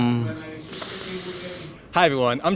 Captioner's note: inhales